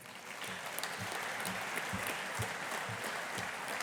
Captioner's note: audience applauding